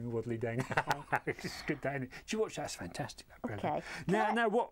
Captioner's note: laughter